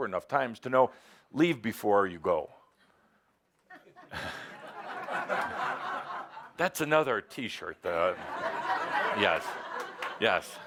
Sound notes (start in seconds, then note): 3.7 laughter